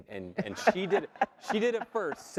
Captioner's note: laugh